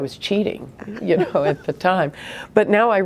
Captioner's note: laughing